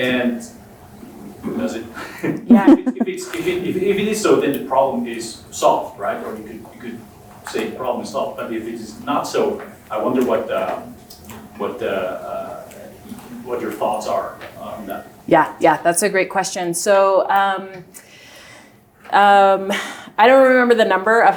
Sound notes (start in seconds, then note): 2.0 chuckles